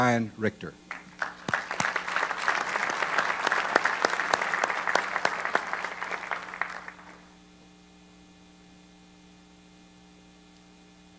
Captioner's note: applause